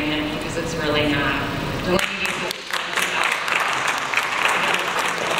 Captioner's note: audience applauds